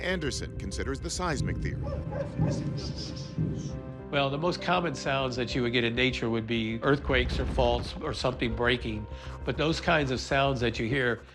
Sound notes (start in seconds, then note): 2.0 rhythmic deep thumping